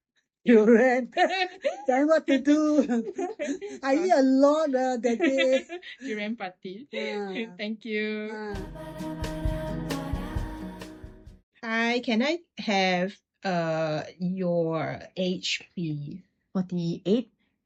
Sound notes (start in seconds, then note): 3.1 laughs; 6.4 laughs